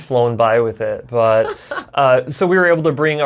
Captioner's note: laughs